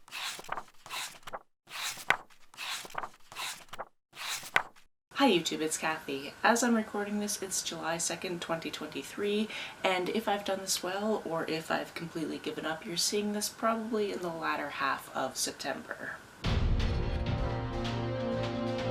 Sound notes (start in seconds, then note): 4.1 pages turning